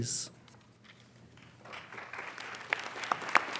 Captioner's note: applauding